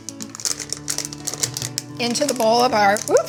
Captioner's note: cheerful music continues; wrapper shuffling